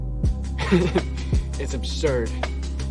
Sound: laughs

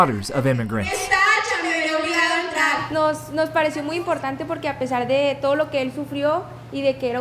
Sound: Spanish

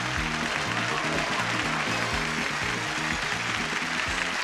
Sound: audience applauds

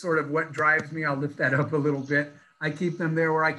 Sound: laughs

